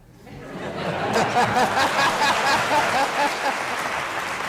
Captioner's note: audience laughing